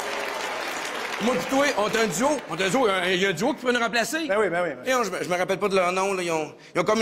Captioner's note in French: applaudissements